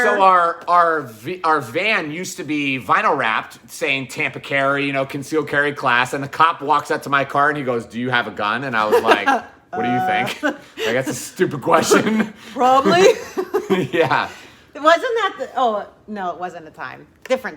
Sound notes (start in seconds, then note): 12.8 chuckling